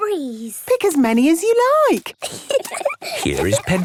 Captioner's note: giggling